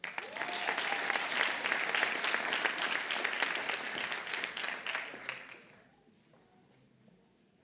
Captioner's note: applause